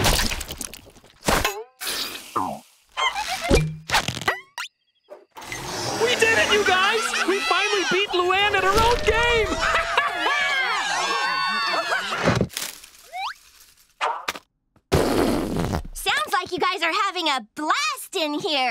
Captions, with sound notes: We did it, you guys! We finally beat Luan at her own game! [laughing] [farting sounds] Sounds like you guys are having a blast in here.